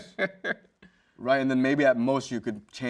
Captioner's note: host laughs